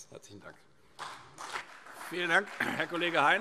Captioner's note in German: Vereinzelter Beifall CDU und BÜNDNIS 90/DIE GRÜNEN